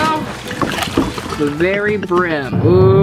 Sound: pouring

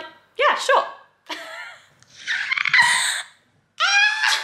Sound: laughing

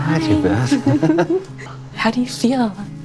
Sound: both laugh

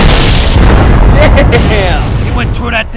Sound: laughing

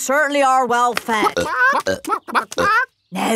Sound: clucking

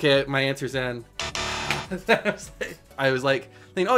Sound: buzzer buzzes; laughs

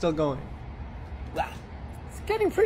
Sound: grunts softly

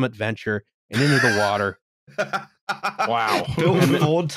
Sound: laughs

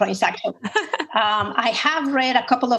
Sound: laughs

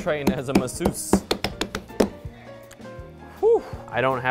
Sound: hands thumping

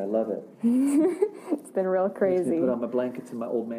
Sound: laughs

